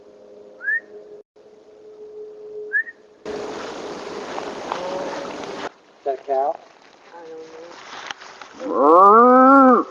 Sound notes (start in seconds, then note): 1.0 whistling; 4.6 animal calling; 9.6 imitating animal call